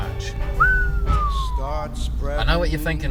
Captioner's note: whistles